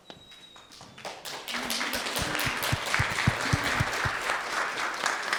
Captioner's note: applause